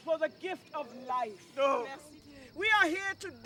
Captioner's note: group responds, man calls out in grief